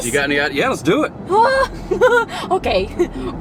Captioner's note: chuckles